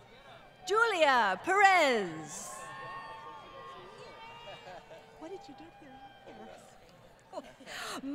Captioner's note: laughs